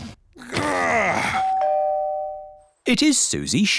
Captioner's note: groans; doorbell rings